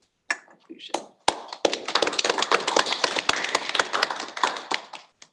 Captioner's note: applause